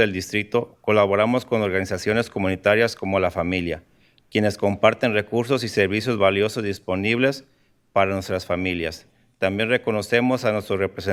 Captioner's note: speaking in spanish